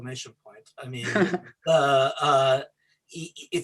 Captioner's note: chuckles